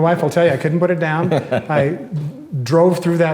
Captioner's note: laughs